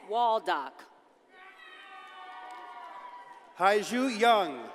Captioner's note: audience cheers and applauds